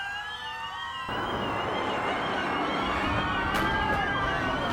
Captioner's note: bomb explodes